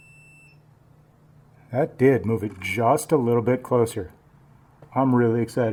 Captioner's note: beeping stops